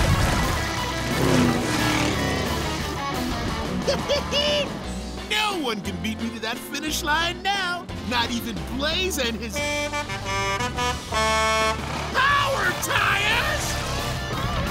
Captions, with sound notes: [laughing] No one could be that finish line now, not even Blaze and his-- [horn honking] Power tires?